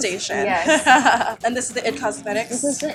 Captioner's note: laughs